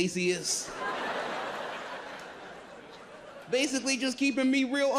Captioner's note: audience laughs